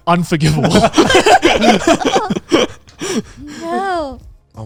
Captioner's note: everyone laughing